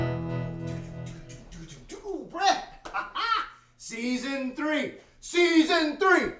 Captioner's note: singing to himself; laughs